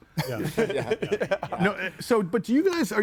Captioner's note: person laughs